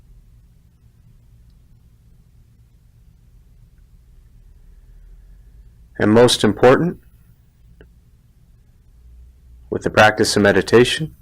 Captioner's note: silence